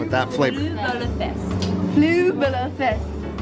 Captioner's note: speaking in foreign language